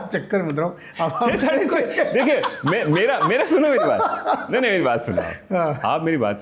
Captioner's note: laughter